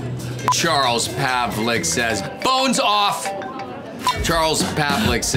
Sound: phone ringing

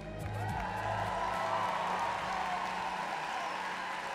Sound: applause

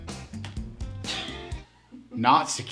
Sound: operator laughing

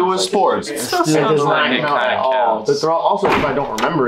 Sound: arguing

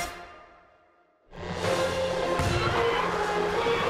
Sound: tires screeching

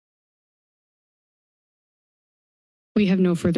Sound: silence

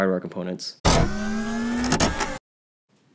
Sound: servo sound effect

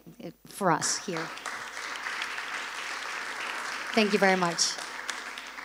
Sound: applause

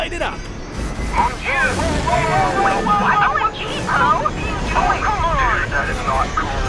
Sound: group disappointment

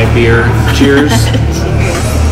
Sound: laughs

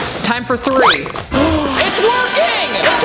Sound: gasps

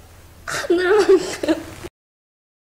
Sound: laugh

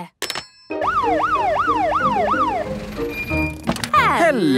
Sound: siren sounding

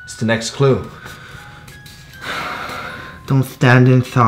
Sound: sigh

